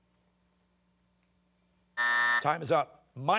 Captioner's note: timer sounding